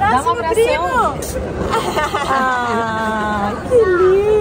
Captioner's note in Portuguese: risos